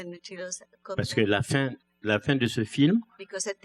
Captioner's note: speaking french